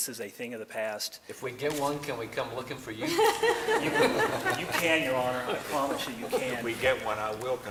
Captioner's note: laughter